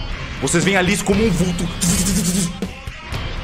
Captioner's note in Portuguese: som de mexer rápido